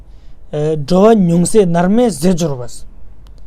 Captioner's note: tibetan